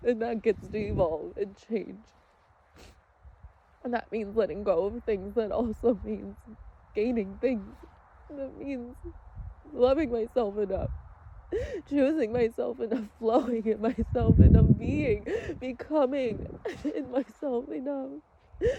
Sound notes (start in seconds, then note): 2.7 sniffles